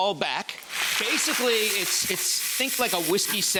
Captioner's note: audience applauding